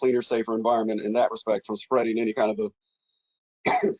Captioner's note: coughs